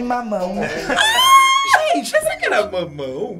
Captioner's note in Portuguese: grita